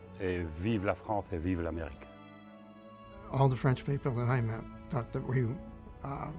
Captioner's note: person speaking in a foreign language